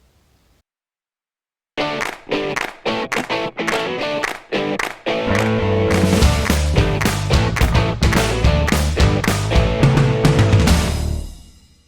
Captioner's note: claps